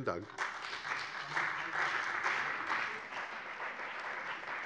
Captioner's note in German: Beifall bei dem BÜNDNIS 90/DIE GRÜNEN und der CDU